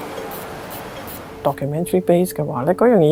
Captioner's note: Cantonese